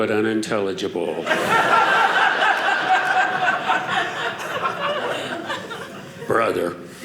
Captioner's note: audience laughing